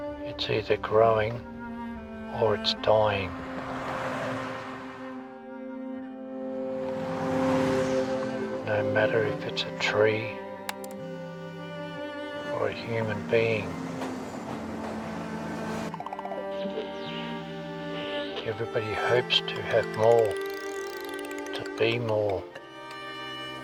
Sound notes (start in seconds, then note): 2.5 traffic whooshing; 14.4 melancholy music; 19.6 bicycle tire clicks